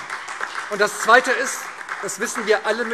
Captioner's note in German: Beifall SPD und DIE LINKE